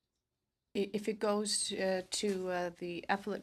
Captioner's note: speaking in french